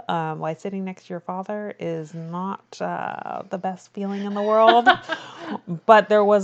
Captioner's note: laughs